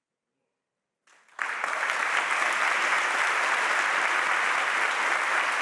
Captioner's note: audience applauding